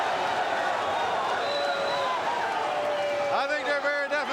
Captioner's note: crowd cheering